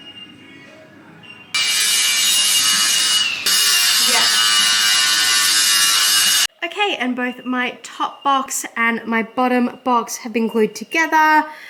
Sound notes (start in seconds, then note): 1.5 power tools surging in background